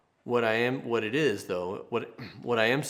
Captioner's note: clears throat